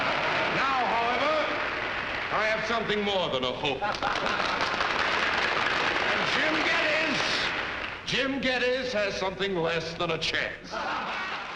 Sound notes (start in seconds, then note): 0.0 audience Applauding; 3.6 applause Continues; 7.2 applause Stops